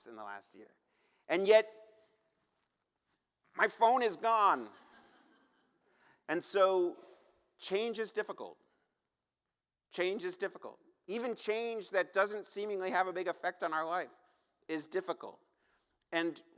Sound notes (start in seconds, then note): 6.4 laughter